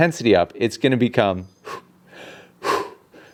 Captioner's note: breathes sharply